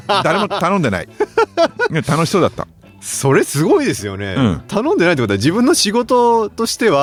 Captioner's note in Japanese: 笑い